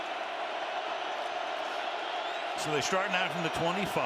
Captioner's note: cheering